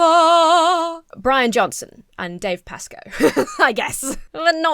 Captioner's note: laughs